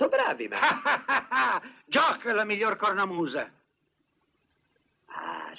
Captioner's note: laughs